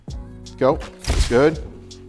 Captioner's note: shutter clicks